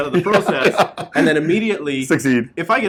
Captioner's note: laughs